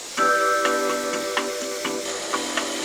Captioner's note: food processor running; pensive music